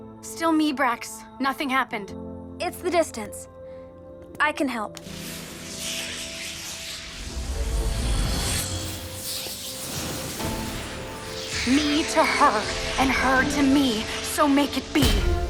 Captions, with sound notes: Still me, Brax. Nothing happened. It’s the distance. I can help. [magical buzzing] [soft music] Me to her and her to me, so make it be.